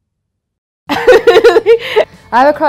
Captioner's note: laughing